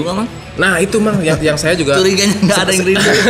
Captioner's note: laugh